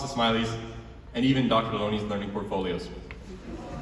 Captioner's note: audience groans